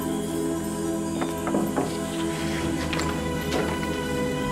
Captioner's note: door opens